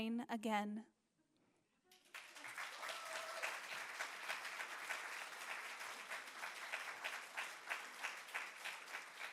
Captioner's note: applause